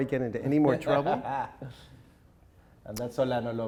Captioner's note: laughing